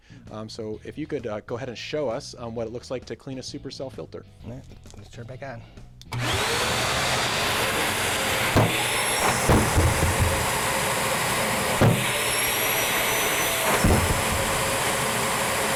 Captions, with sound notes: So, if you could go ahead and show us what it looks like to clean a Supercell filter! -Alright, let's turn it back on. -[Mechanical startup]